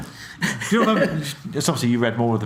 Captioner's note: laughs